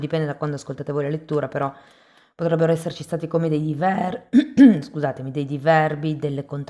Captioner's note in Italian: schiarire la voce